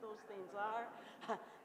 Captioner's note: laughter